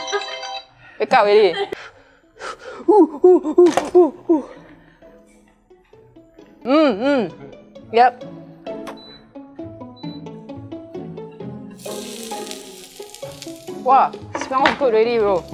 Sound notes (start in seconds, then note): 2.8 monkey sounds